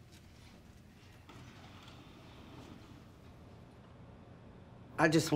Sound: sliding doors whirring

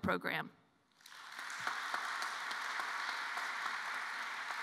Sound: applause

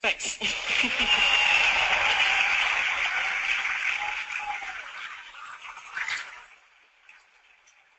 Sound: crowd Cheering

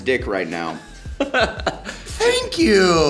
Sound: Blake laughing

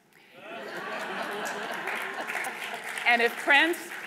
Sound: laughing

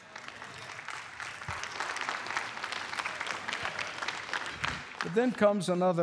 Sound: congregation applauding

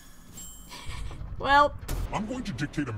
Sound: giggles

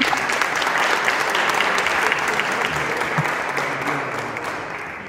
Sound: applause

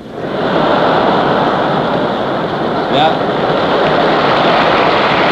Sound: laughter

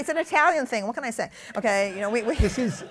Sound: laughter

